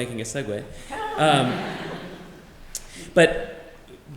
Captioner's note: laughter